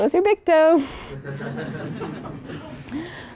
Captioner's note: laugh